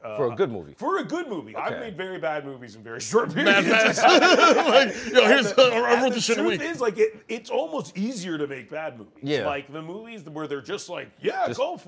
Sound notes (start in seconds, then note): 3.2 laughter